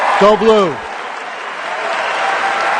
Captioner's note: cheers and applause